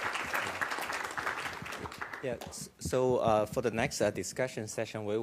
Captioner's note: applause